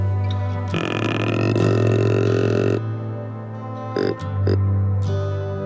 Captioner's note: deer call grunting